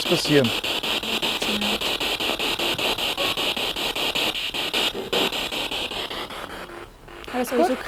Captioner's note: noise of the spiritbox in the background